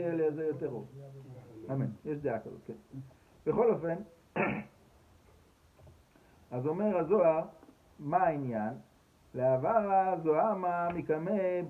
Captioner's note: Aramaic